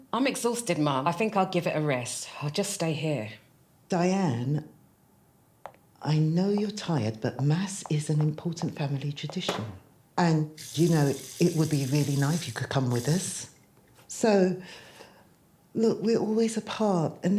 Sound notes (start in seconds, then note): 10.6 faucet running